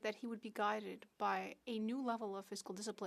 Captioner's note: speaking French